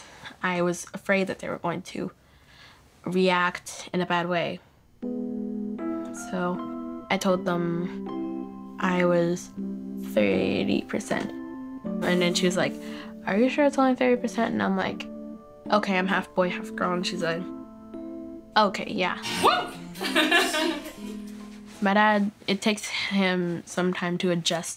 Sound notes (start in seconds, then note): 19.2 laughs